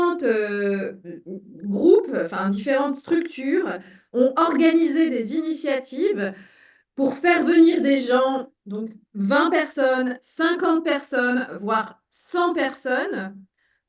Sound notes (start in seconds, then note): 1.8 speaking in French